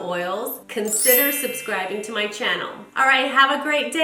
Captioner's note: bell chimes